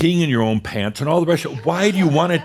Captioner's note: a few chuckles